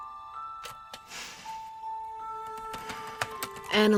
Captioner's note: inhales; typing